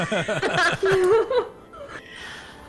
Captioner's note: all laughter